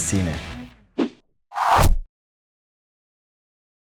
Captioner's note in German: Wuuusch